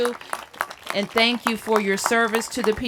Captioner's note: applause